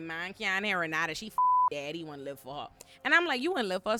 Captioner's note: beep